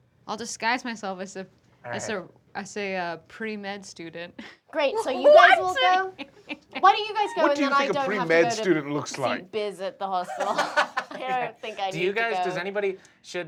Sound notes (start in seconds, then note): 1.8 laughs; 5.1 laughs; 10.2 laughter